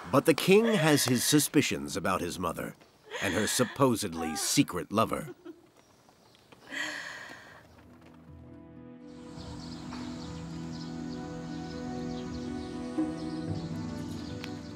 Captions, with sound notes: But the king has his suspicions about his mother, and her supposedly secret lover. (gentle music) (birds chirping)